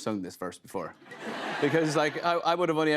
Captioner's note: laughter